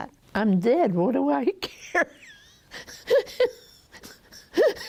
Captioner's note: laughs